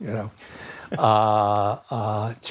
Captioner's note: laughter